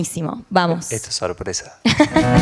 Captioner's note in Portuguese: risos